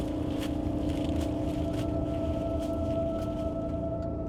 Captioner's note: eerie hum